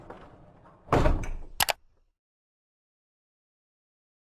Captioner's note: mouse click